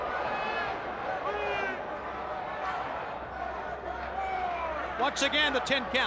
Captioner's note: crowd chatter